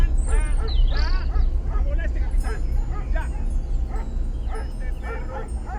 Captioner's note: dog barking